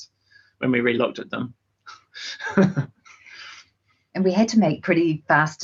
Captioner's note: chuckles; laughing